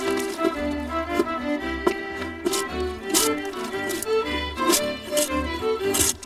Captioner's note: wood snapping